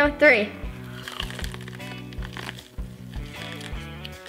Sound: corn crunches

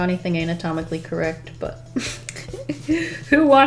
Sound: laughs

